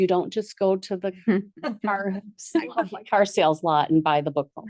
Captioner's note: board members laugh